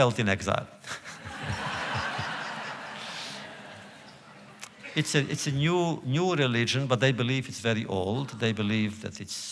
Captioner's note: laughter